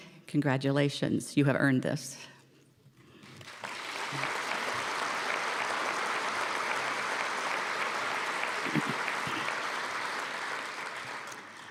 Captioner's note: applause